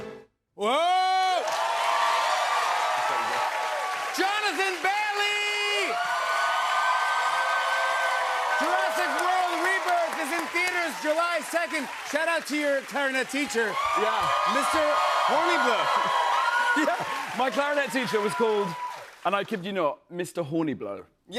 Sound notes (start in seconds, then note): 1.1 cheers and applause; 5.8 cheers and applause